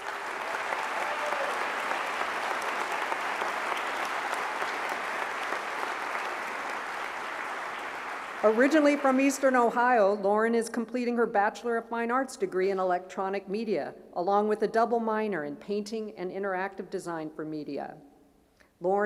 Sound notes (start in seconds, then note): 4.1 applause